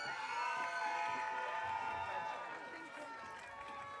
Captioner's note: audience cheering